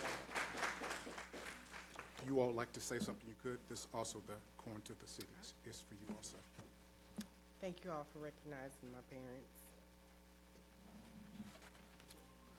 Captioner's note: applause